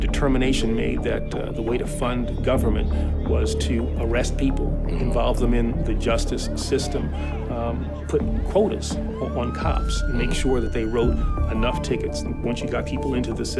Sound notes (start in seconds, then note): 6.7 people shouting